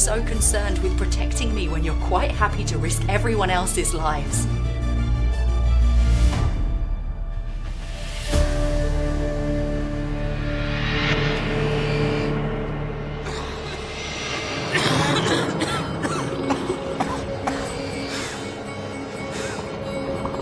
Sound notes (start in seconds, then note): 5.5 dramatic orchestral music; 13.2 Jed coughing